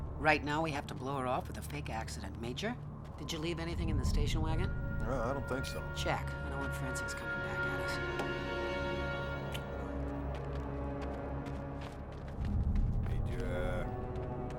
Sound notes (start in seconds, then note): 9.5 kissing